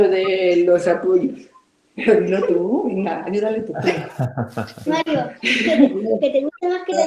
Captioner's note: laughs